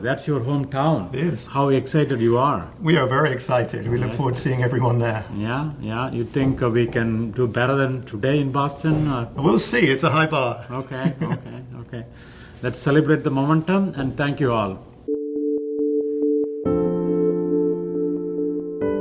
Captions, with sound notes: That's your home town. - It is. - How excited you are? - We are very excited. We look forward to seeing everyone there. - Yeah, yeah, you think we can do better than today in Boston, or? - We'll see, it's a high bar. (chuckling) - Okay, okay, okay. Let's celebrate the momentum, and thank you all. (reflective music)